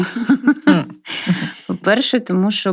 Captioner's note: laughter